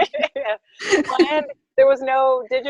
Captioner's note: laughing